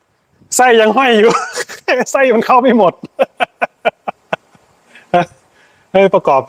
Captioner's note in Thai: เสียงหัวเราะ